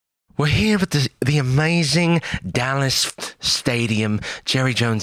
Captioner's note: britishly